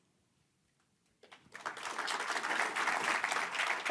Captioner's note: applause